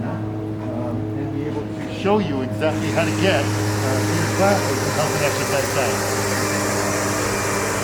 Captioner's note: construction noise